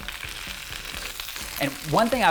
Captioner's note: spinach sizzles